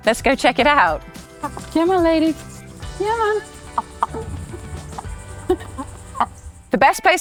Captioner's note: chickens clucking